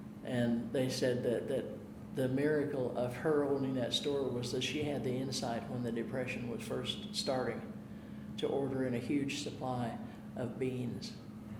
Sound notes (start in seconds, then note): none